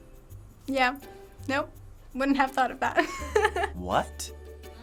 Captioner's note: laughs